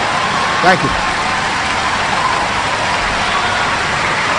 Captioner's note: cheering